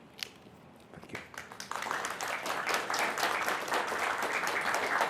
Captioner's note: applause